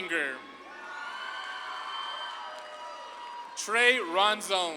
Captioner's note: audience claps and cheers